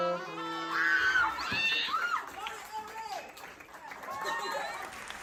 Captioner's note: audience cheering